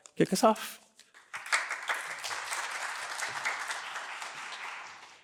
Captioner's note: applause